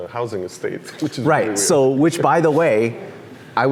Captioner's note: laughs